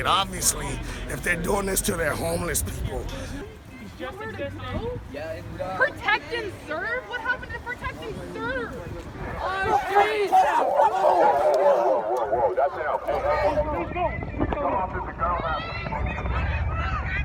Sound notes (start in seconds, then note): 10.2 shouting